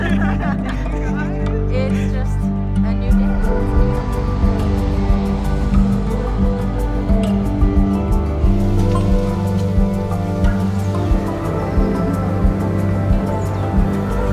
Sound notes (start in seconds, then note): 3.1 traffic noise; 8.4 leaves rustling